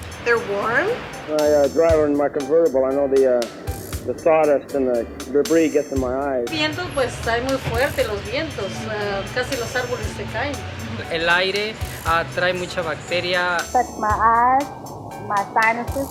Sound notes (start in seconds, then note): 6.7 speaking Spanish